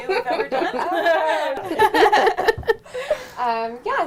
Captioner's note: laughter